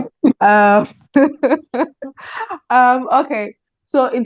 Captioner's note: laughs